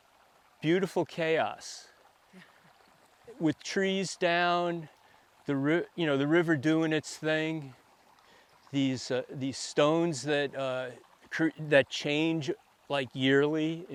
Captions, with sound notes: Beautiful chaos (water sloshing) with trees down, you know, the river doing its thing. These stones that change, like, yearly in different places.